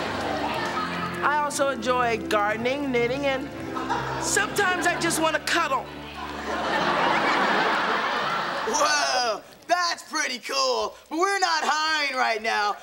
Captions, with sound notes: I also enjoy gardening, knitting, and sometimes I just want to cuddle. [audience laughing] Whoa. That's pretty cool, but we're not hiring right now.